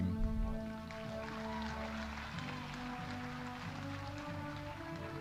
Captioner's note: audience applauding